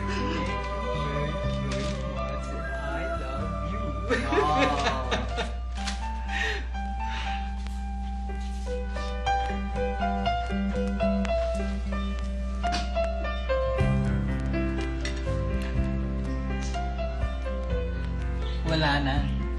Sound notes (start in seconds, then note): 3.7 laughs